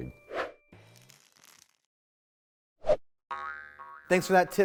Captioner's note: screen whooshing